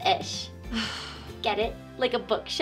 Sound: deep sigh

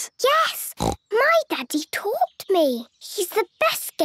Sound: snorts

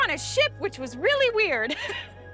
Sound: chuckles

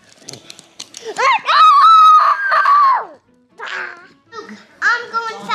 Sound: child screeching

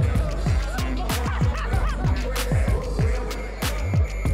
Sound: girl laughing

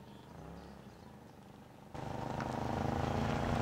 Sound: birds chirping

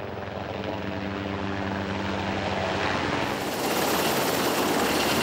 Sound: helicopter blades humming

